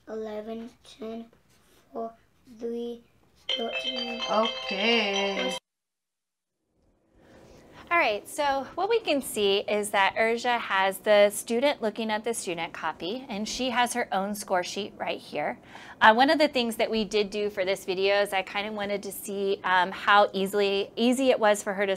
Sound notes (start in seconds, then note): 3.4 timer Sounds